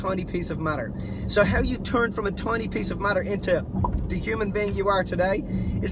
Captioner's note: pop